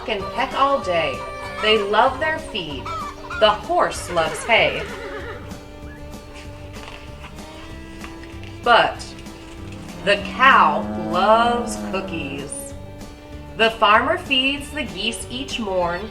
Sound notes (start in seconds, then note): 4.7 horse neighs; 11.5 cow moos